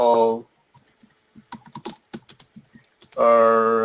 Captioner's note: keyboard strokes